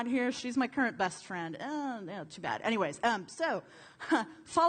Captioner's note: laughter